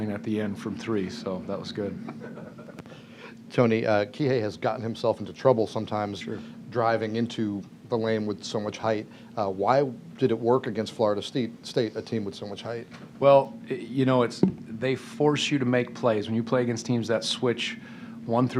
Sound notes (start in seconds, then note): 2.0 laughter